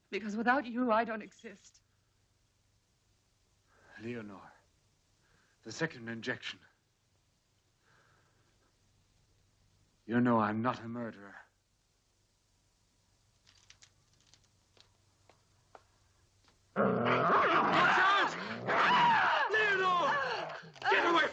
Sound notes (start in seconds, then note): 16.9 dog barking; 19.8 Leonor groans